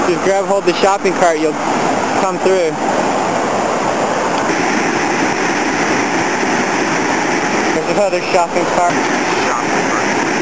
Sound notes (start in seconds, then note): 3.8 water rushing loudly; 10.1 water rushing loudly